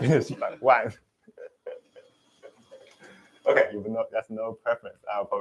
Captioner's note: laughs